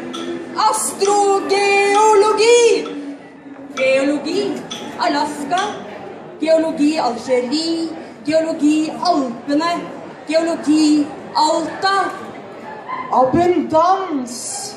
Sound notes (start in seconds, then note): none